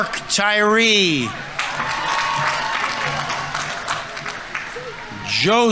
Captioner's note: audience members cheering; audience applauding